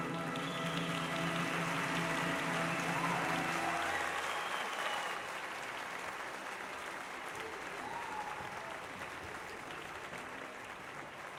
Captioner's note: applause